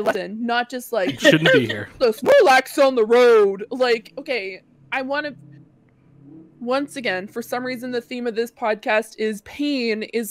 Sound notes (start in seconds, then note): 1.8 mocking